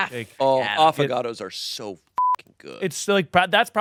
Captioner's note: beep